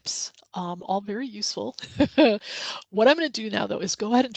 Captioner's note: laughs